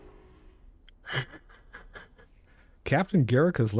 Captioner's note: laughing